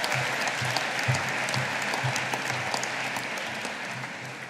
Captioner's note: audience applauding